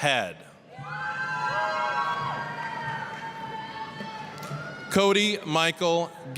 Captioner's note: applause, cheering